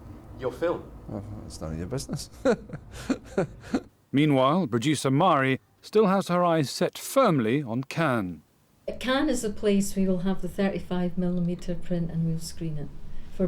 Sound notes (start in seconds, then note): 1.9 laughs